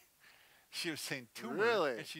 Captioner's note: laughs